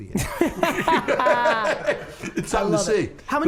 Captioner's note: group laughter